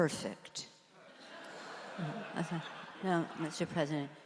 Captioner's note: audience laughs